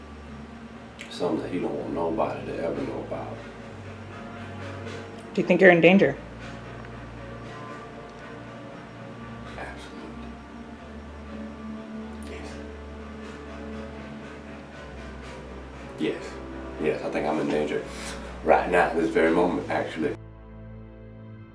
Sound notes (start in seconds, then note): 9.3 whispering; 20.1 solemn music